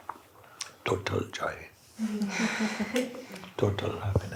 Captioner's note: laughter